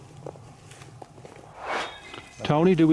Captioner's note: swoosh